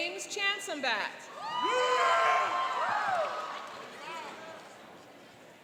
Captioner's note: cheering and applauding